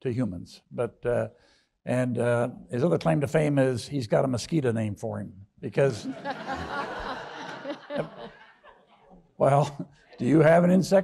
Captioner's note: audience laughs